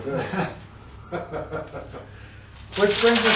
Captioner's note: both laughing